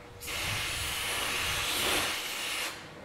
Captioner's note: machine whirring